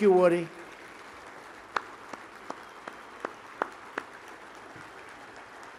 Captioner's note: applause